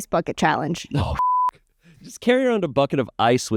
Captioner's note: beep